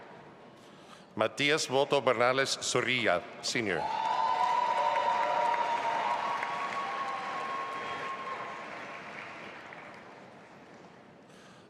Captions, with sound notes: Matias Voto-Bernales Zorrilla, senior. (audience applauding)